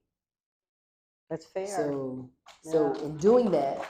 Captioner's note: applause